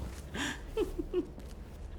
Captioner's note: laughs